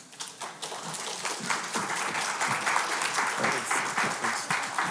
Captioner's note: audience applauding